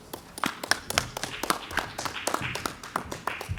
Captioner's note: clapping